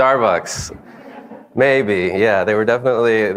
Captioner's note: audience laughs